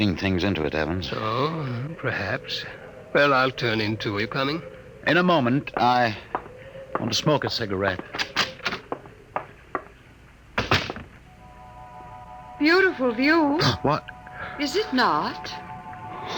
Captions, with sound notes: things into it, Evans. Oh, perhaps. Well, I'll turn into it, coming. In a moment, I want to smoke a cigarette. [door closes] Beautiful view. What? Is it not?